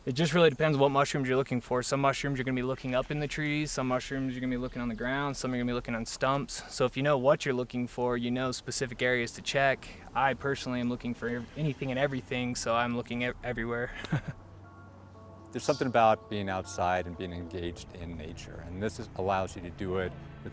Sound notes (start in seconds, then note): 13.8 chuckles